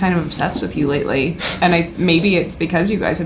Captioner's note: chuckles